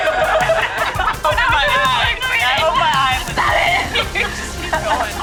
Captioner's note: laughing and chatter